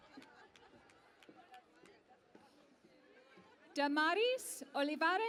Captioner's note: cheering and Applause